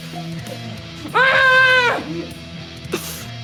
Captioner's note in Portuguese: grito